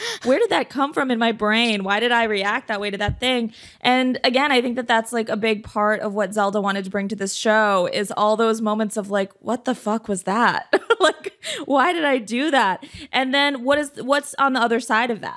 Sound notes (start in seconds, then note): 10.6 chuckles